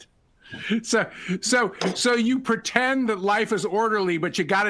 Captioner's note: laughter